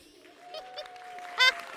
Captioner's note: applause; laughing